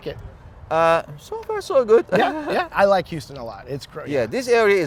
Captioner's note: güler